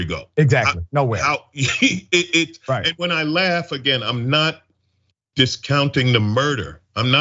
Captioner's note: laugh